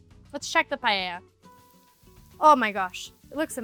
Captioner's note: food sizzling